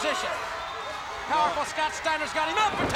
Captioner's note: audience cheering